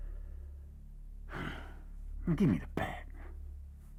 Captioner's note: sighs